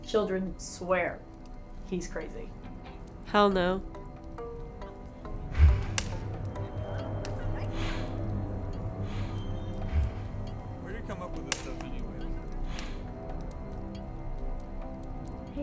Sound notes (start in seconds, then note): 5.5 Bigfoot snorting; 5.5 people chattering